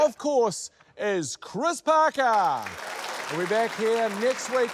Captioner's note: applause